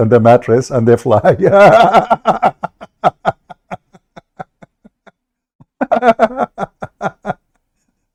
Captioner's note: Ketawa